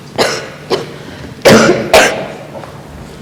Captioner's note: coughing Sounds